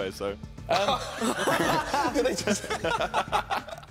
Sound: laughing

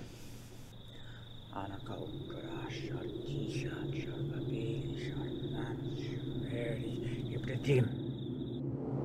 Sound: chants in babylonian

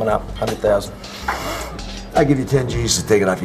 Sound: sniff

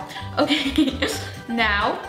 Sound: giggles

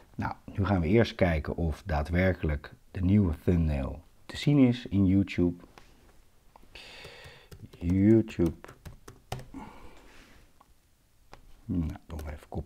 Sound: typing sounds

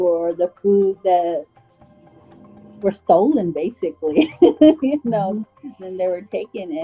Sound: laughs

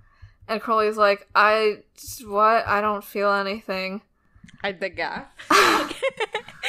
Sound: both laugh

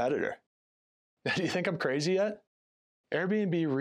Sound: laughs

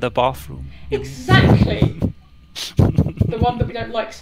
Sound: laughing

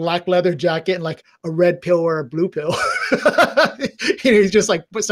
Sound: laughs

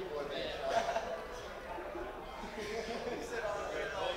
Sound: man laughing

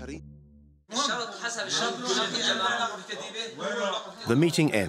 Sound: Arabic spoken audio

